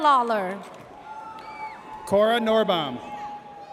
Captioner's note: audience cheers